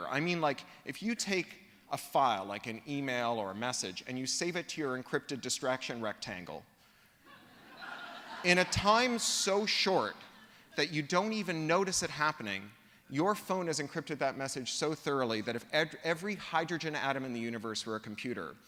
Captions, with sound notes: I mean like if you take a file, like an email or a message, and you save it to your encrypted distraction rectangle [LAUGHTER] in a time so short that you don't even notice it happening, your phone has encrypted that message so thoroughly that if every hydrogen atom in the universe were a computer,